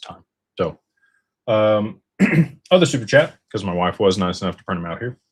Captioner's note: clears throat